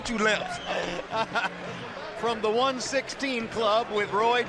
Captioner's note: laughing